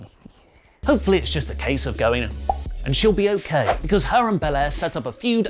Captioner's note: pop